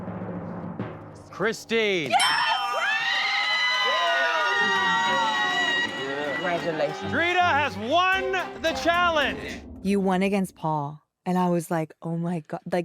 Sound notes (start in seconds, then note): 0.0 drumroll; 6.3 people shouting